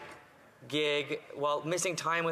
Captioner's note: none